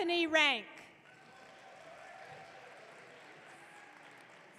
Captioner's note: audience cheering